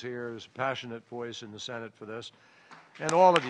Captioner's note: applause